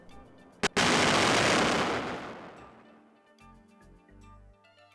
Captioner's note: explosion